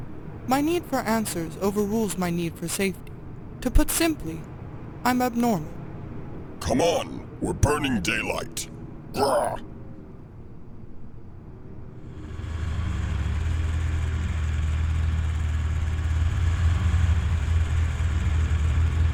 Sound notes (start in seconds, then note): 12.4 engine starts up